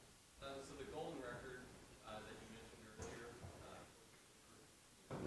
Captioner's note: man speaking off mic